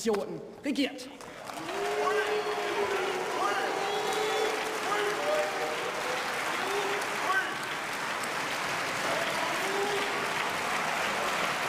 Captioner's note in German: Beifall; Buh-Rufe